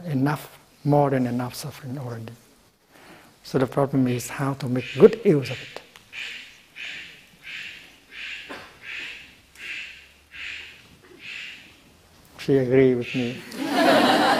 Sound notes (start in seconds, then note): 6.1 A bird is cawing in the background; 13.4 laughter